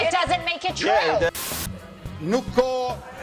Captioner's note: TV fuzz whooshes; speaker speaks Albanian